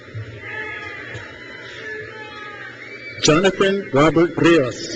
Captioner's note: crowd cheers